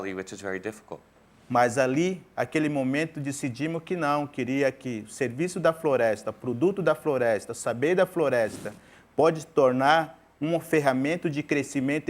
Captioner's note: speaking in portuguese